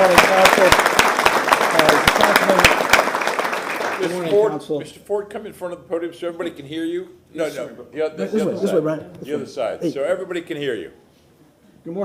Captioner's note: applause